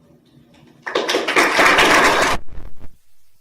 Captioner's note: applause